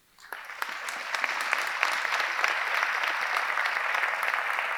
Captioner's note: audience applauding